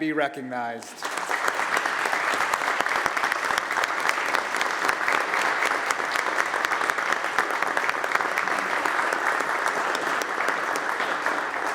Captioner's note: applause